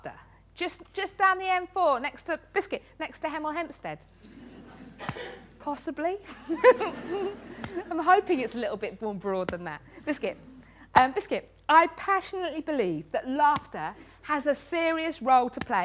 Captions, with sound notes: Just down the M4 next to, biscuit, next to Hemel Hempstead. Possibly? (LAUGHTER) I'm hoping it's a little bit more broad than that. Biscuit. Biscuit. I passionately believe that laughter has a serious role to play